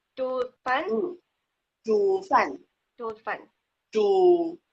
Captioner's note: speaking foreign language